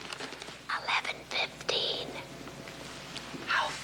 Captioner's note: whispers